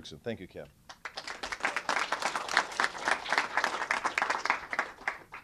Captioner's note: applause